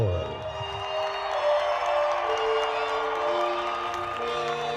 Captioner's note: crowd cheers